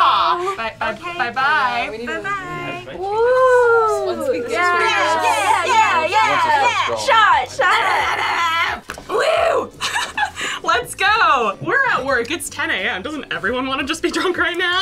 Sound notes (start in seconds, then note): 9.1 exclaims; 9.5 laughs